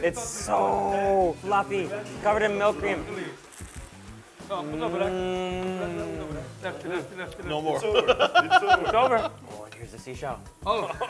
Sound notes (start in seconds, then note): 3.9 delighted hum; 7.8 laughs; 10.8 laughs